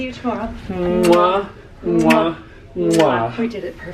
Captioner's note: both smooching